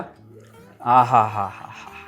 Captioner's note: gasps